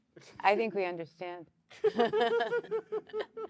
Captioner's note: laughter